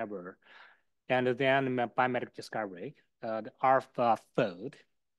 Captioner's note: faintly speaking